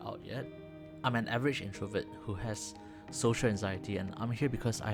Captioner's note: gasp